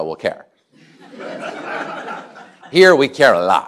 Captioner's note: laughter